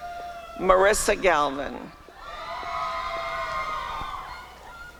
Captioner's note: applause and cheering